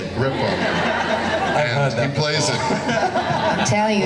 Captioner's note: laughing